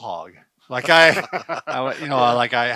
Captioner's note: men laughing